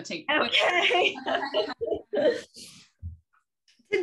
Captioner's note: soft laughter